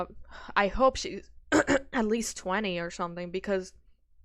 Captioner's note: clears throat